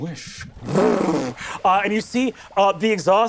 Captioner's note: imitates car zooming